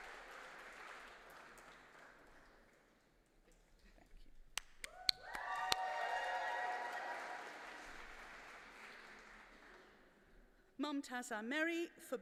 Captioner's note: applause